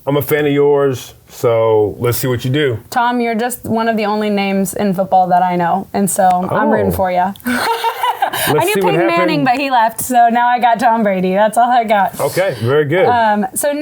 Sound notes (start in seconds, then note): 7.4 laughs